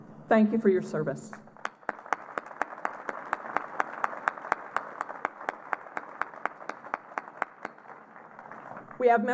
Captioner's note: applause